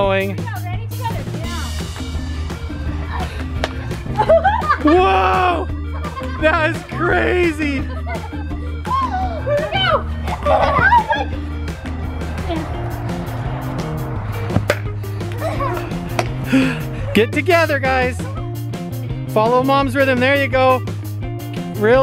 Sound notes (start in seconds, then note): 2.9 laughing; 15.4 laughter; 17.6 laughs